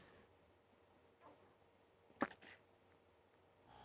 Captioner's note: silence